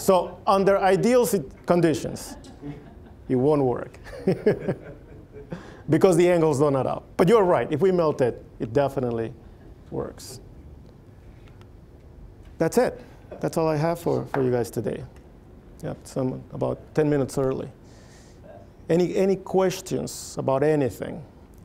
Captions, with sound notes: So under ideal conditions, it won't work. (chuckling) Because the angles don't add up. But you're right-- if we melt it, it definitely works. That's it. That's all I have for you guys today. Yeah, so I'm about 10 minutes early. Any questions about anything?